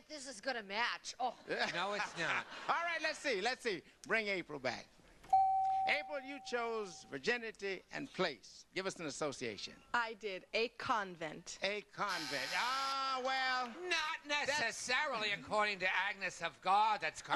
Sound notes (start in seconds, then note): 1.4 laughter; 5.3 beep; 12.1 buzzer